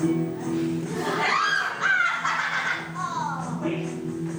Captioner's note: TOKO screams, MONOKUMA laughs